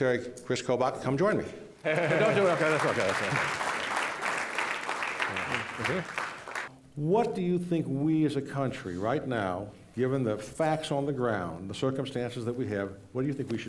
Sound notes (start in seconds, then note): 7.4 applause